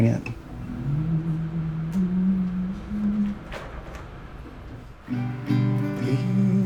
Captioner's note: humming and strumming